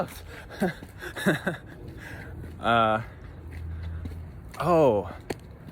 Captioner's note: laughs